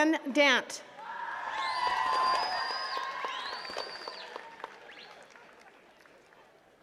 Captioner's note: attendees cheering and clapping